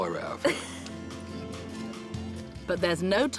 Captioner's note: laughs